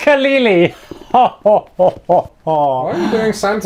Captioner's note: ridiculous laughter